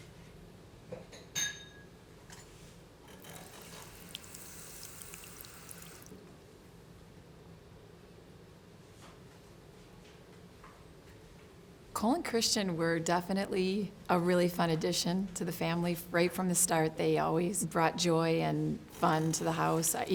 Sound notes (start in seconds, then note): 1.4 glass clinking; 3.0 water running